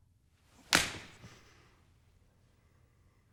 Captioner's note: smack